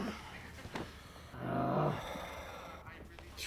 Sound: Chaz groans

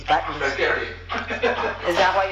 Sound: garbled laughter

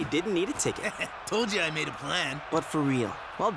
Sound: chuckling

